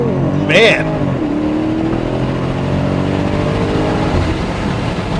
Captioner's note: car engine revving